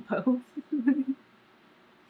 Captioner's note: laughs